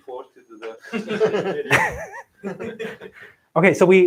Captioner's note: laughter